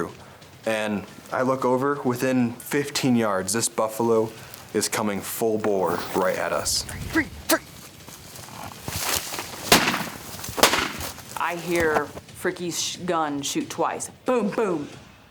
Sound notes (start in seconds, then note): 10.5 gun firing